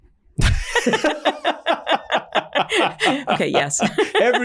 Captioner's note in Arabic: كلاهما يضحك